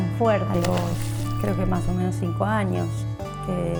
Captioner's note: splash